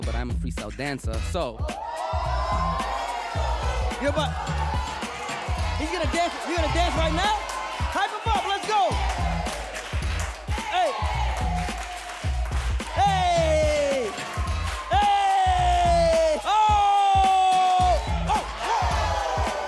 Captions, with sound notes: but I am a freestyle dancer, so. (audience cheers) - He about? He gonna dance, he gonna dance right now. Hype him up, let's go. Hey. Ay. Ay. Oh. Oh, whoa, whoa.